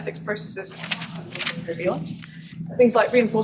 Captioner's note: page turns, obscures voice